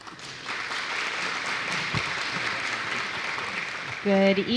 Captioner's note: applause